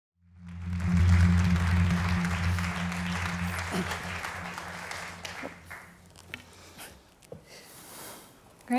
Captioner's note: applause